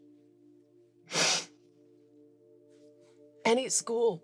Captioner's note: Ava sniffles